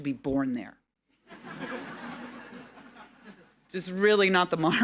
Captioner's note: audience laughing